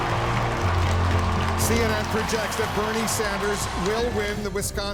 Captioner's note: crowd cheering and clapping